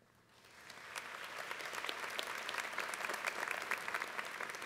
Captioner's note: applause